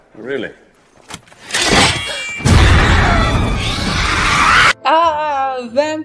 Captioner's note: crossbow metalic noise and screeches